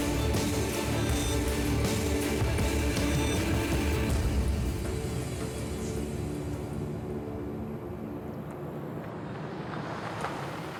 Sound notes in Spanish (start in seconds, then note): 5.0 sonido del motor